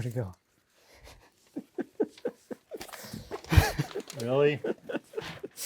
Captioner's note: men chuckling